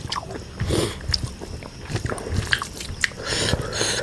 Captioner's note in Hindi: नाक से की जाने वाली आवाज़